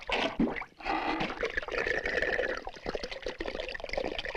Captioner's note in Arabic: خرخرة الماء